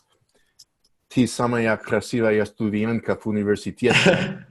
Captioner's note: phrase in Russian